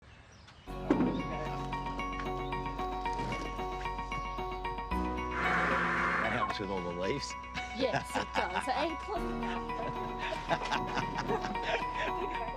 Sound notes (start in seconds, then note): 6.2 leaf blower whirrs; 9.4 laughs